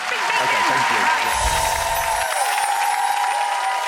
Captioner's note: crowd cheering and applauding; soft symbol tones